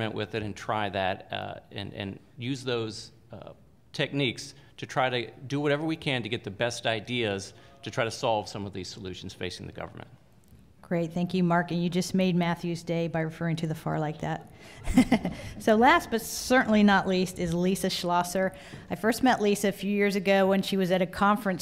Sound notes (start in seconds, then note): 14.7 laughter